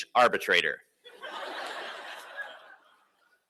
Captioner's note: laughter